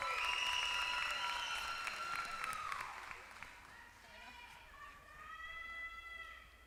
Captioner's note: applause